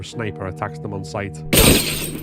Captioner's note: gunshot